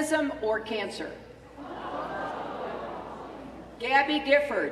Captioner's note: laughter